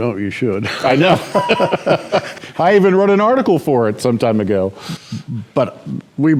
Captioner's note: laughter